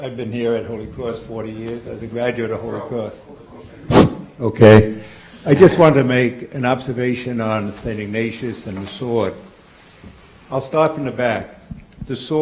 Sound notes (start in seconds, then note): 3.8 blowing